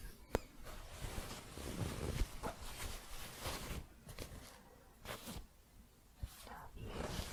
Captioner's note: light scratching